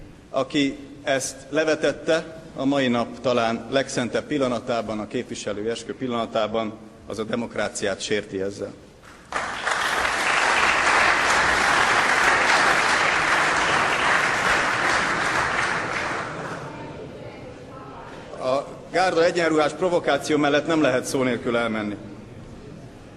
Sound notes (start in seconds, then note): 9.4 Applause. Krisztina Morvai shouts